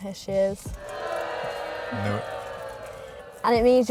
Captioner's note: crowd booing